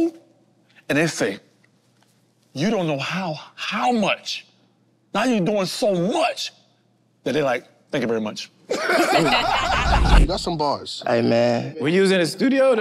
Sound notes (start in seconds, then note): 8.7 group laughs